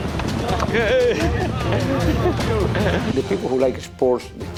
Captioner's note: men cheer